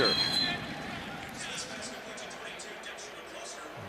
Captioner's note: whistles